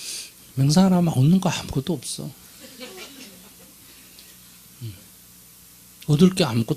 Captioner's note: audience Laughter